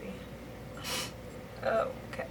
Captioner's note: sniffles